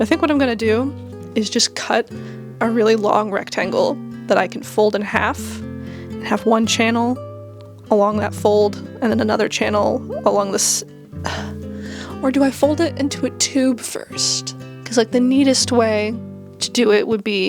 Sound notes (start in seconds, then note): 11.8 sigh